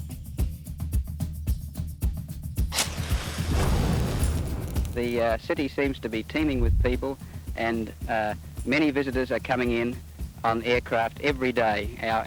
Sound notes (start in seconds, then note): 2.7 match strikes; 2.7 fire roaring